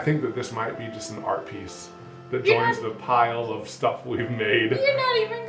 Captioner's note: none